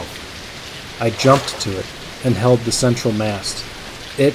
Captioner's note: water slightly moving sound